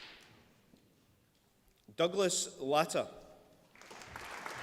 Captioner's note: applause